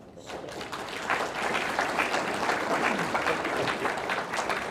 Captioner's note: audience clapping